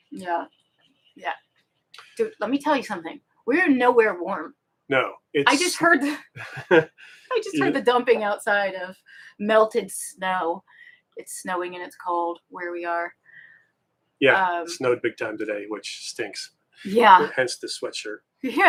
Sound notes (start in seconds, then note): 6.4 both giggle